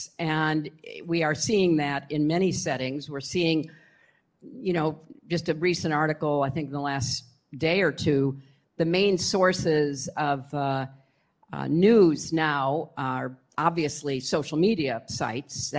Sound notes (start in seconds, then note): none